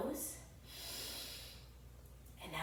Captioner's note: inhales deeply